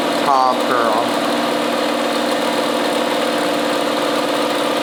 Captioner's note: machine whirring